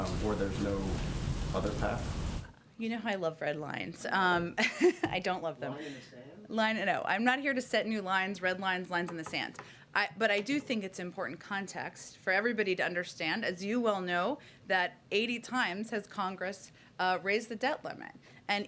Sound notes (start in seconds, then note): 4.5 laughs